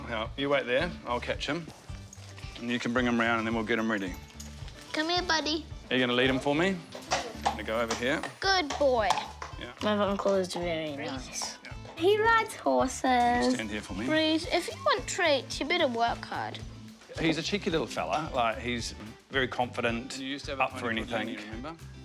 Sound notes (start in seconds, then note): none